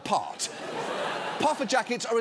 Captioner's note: studio audience laughs